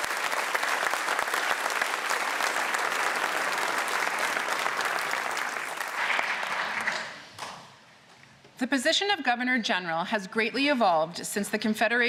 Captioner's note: applause